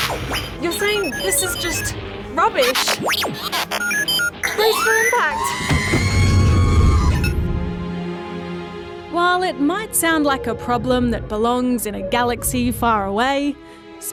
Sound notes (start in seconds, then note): 2.3 beeps, whirrs; 6.0 beeps